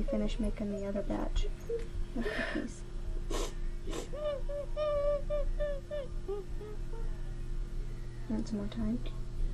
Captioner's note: is crying and sniffling